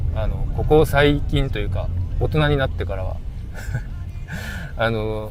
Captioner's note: laughs